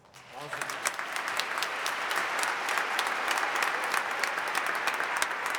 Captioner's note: audience applauding